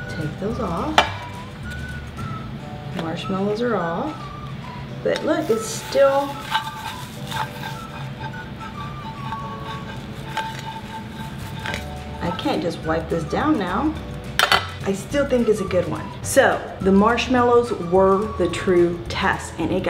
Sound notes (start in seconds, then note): 5.1 scraping